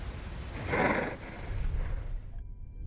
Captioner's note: drogon snorts